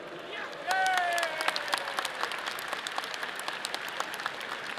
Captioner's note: audience applauding